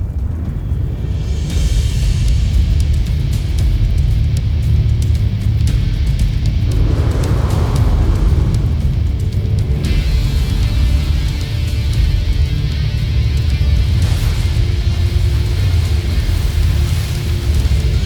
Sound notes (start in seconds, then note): 0.2 fire crackling; 0.2 rock music playing; 6.3 infernal whoosh-crackle; 6.7 echoing screech; 9.5 infernal whoosh-crackle; 9.5 music swells